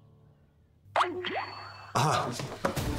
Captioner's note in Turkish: Bildirim sesi